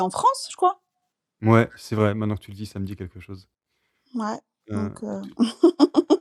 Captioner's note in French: rires